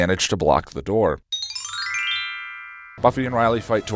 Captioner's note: lesbian subtext bell